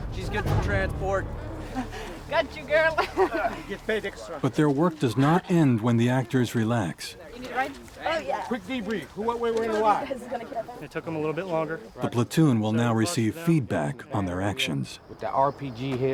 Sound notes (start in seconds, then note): 2.8 woman, laughing; 5.0 voiceover; 12.9 voiceover